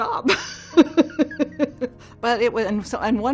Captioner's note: laughs